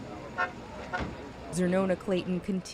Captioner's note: horn honking